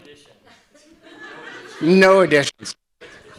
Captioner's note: people chattering